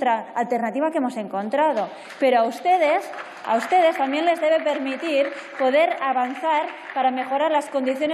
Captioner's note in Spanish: Aplausos